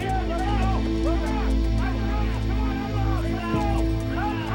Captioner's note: slow instrumental music; men shouting orders